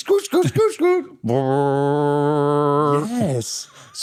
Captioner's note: imitates boinking